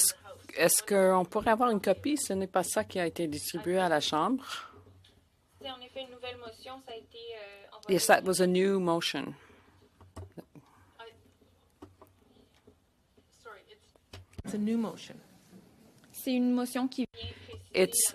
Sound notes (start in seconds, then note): 3.9 speaking French